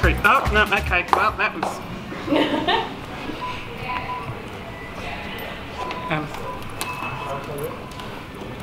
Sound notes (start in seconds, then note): 2.2 saleswoman laughs; 2.7 beeping